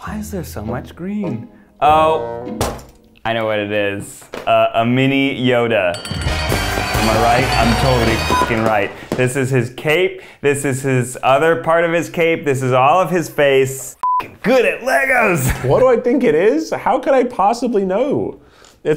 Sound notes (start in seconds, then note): 2.6 bangs table; 5.6 celebratory music; 6.2 beeping; 14.0 beeping